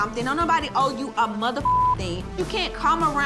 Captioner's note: beeping